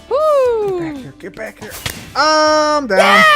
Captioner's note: whispering; firework explodes